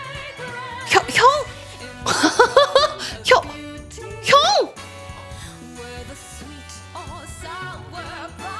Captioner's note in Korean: 웃음